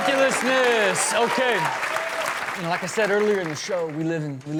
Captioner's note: audience cheers